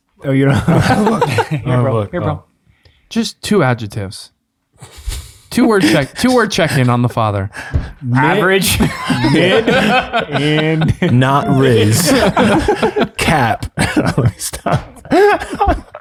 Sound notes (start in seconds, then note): 0.4 Father Angelus laughs; 11.9 friars laugh